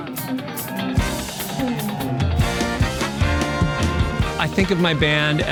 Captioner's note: upbeat band music; audience cheers